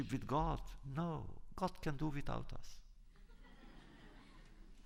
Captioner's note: laughter